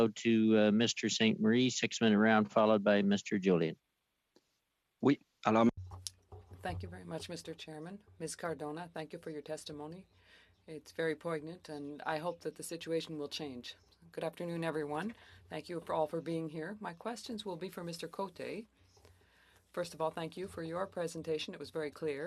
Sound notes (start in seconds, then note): 8.8 speaking French